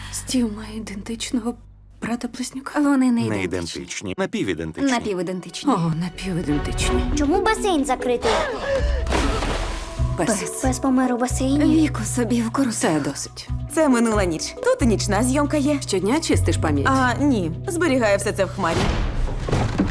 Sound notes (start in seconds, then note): 8.3 gasps; 8.4 Jen panting